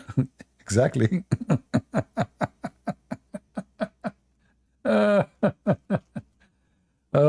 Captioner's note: Ketawa